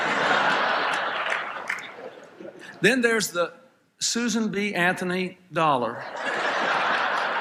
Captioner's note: laughter